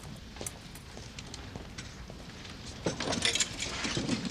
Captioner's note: coins clink in slot